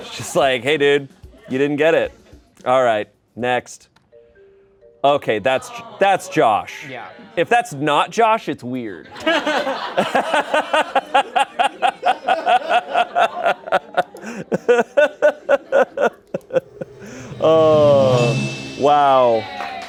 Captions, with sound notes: Just like, "Hey dude, you didn't get it." All right. Next. Okay. That's, that's Josh. - Yeah. - If that's not Josh, it's weird. (laughter) (bell dings) Oh, wow.